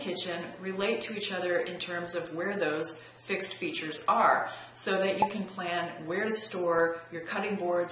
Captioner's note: pop